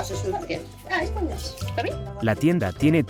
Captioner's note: speaking in foreign language; customer speaking in foreign language